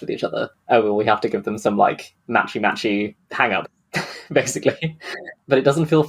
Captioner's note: laughs